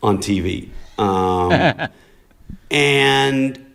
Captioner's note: laughter